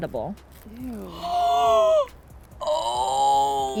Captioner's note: gasps